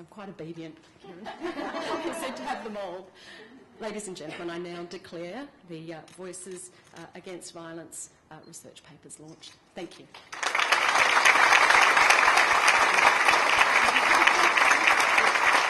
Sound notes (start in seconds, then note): 12.9 applause